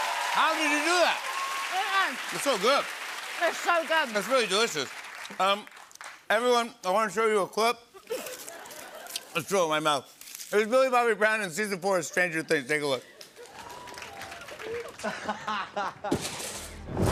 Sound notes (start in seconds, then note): 8.0 light laughter; 14.4 laughs